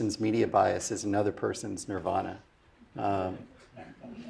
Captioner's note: laugh